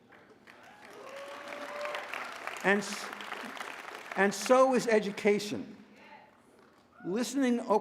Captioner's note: applause